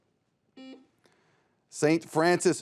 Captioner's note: buzzer beeps